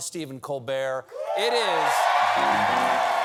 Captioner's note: cheers and applause